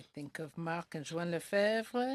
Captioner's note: speaking French